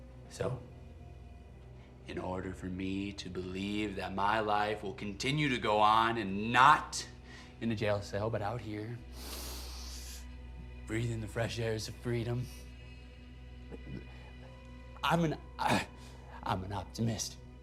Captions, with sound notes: So, in order for me to believe that my life will continue to go on and not in a jail cell but out here (sniffs) breathin' the fresh airs of freedom, I'm an, I (grunts), I'm an optimist.